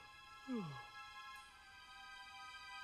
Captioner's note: yawns